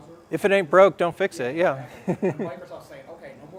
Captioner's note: laugh